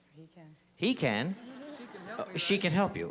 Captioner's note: laughter